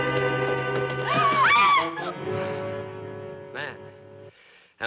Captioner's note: screaming